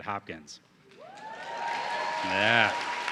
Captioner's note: audience cheering